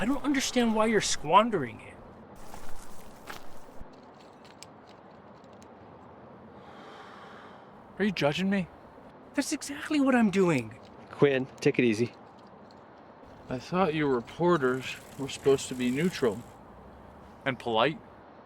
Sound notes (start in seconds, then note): 6.4 exhales smoke